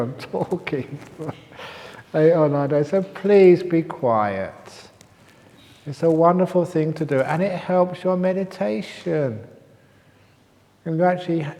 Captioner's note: laughter